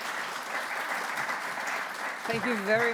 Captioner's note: applause